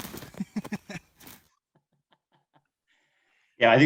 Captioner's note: chuckling